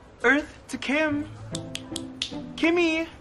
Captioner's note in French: Karlie snaps fingers